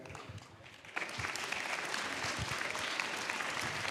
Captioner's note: applause